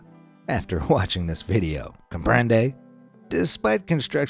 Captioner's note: speaks in Spanish